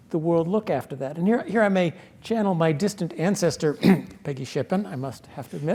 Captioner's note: cough